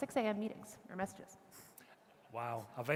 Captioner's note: audience chuckling